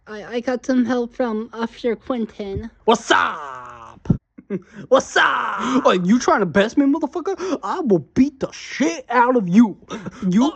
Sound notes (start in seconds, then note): 4.3 chuckles